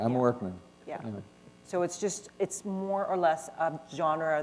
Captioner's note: none